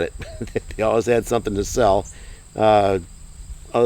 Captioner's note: chuckling